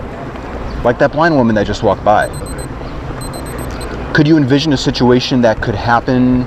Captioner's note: timer beeps